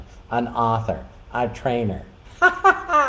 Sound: laughing

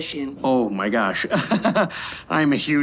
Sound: laughs

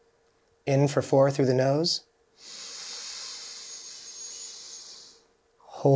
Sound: inhaling deeply

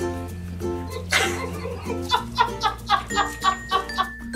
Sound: laughing

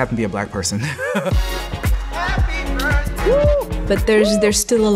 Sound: chuckles

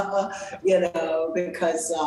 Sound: laughs

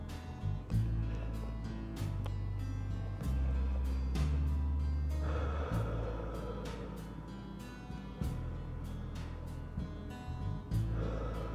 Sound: slow breathing

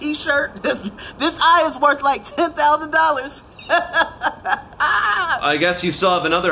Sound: laughs

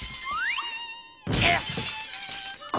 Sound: shattering

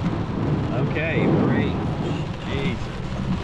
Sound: rain rumbling

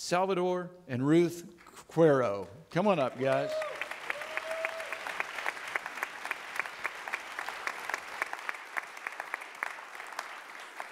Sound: audience clapping

